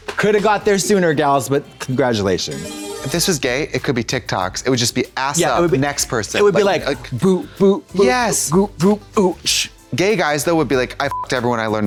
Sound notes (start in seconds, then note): 2.4 bright chime; 11.1 beep